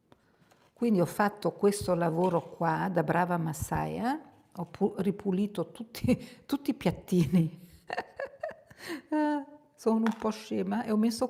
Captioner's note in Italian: risate